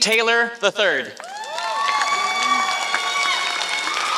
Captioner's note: applause